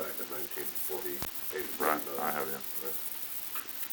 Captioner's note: Murrow, mumbling